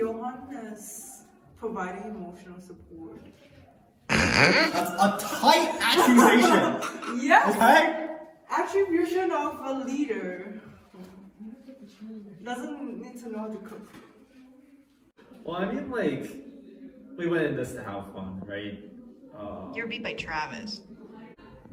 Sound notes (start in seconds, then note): 4.1 really loud snort